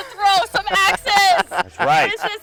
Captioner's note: all laugh